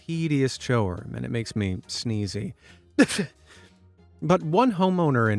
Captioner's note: sneezes